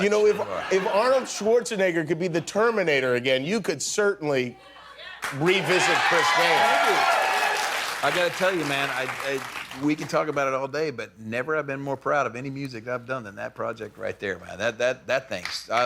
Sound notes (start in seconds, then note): 6.6 cheering